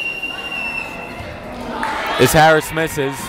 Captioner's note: whistling